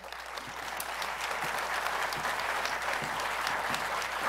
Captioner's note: applause